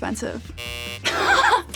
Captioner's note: buzzer rings; Loren laughs